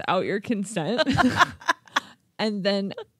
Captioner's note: laughing